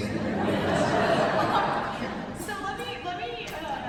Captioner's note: laughter